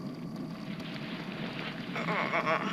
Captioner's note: rustling; pained noise; brakes screech